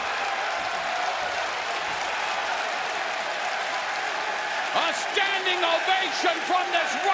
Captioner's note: cheers and applause